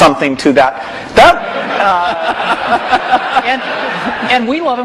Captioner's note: laughter